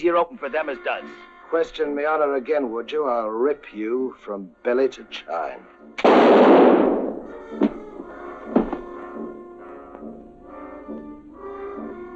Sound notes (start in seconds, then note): 6.0 gunshot; 7.6 knife and body thud; 9.0 ominous music